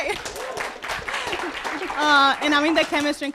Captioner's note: audience applauding